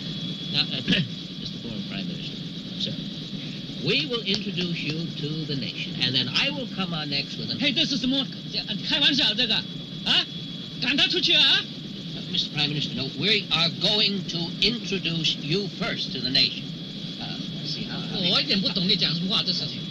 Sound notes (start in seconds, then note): 7.3 shouting in foreign language; 18.2 speaking in foreign language